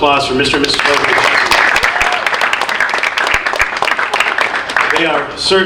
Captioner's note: audience applauding